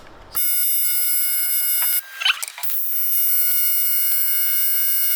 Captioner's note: welder buzzing